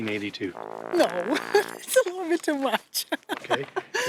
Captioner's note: laughs